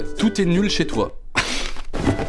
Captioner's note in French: rire